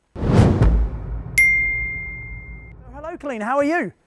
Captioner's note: screen swooshing